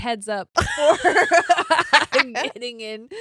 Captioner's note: laughing